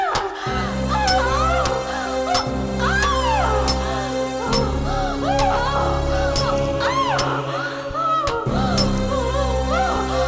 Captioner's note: hammer hits the nail and Vampire cries in agony